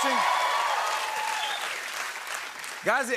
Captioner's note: cheering, whistling, and applause